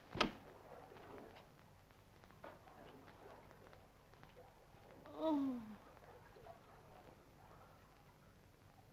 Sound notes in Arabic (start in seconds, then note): 5.0 أنين